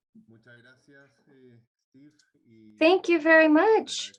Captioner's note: speaks in Spanish